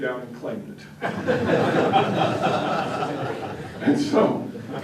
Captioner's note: laughter